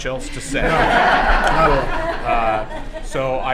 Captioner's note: laughter